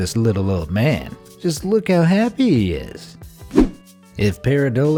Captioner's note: air whooshing